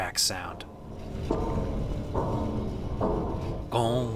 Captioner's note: dull rhythmic metallic clanging